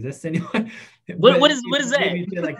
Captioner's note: laughs